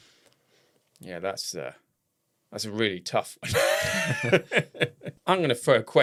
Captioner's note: laughs